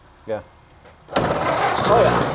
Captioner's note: engine sputters